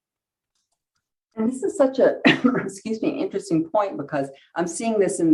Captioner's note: coughs